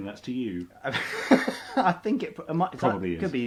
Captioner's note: laughs